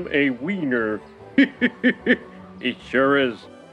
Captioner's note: laughter